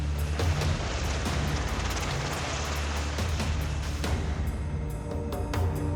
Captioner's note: helicopter blades spinning; ominous music